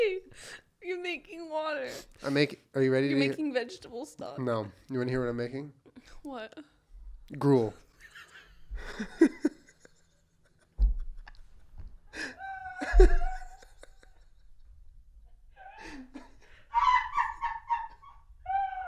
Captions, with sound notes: You are making water -Are you ready -You are making vegetable stock -No. You wanna hear what Im making? -What? Gruel [extreme wheezing] [off mic laugh] [off mic scream laugh]